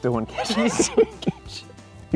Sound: laughing

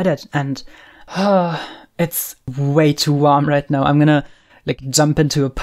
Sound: sighs

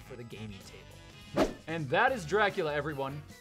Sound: swoosh

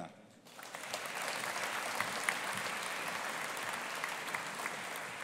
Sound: audience applauding

